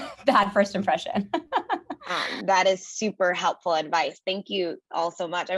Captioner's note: laugh